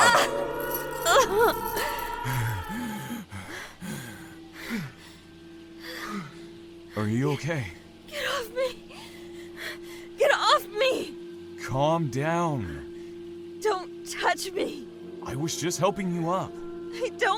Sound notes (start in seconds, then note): 0.0 grunt; 0.0 pained moan; 1.6 heavy breathing; 2.3 screeches in the distance; 4.7 heavy breathing